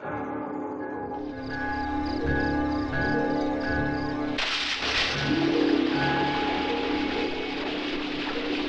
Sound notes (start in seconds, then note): 0.0 dramatic music; 4.3 water splashing